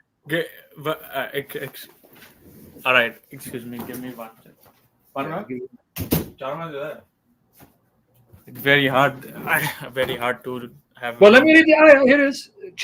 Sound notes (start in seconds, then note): 1.5 stuttering; 5.0 speaking Indian in the background